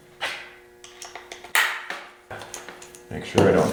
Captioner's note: wrench clanking